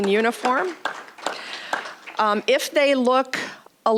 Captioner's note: applause